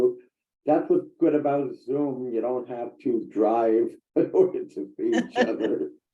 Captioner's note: chuckles; laughs